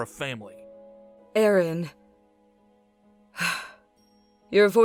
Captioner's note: sigh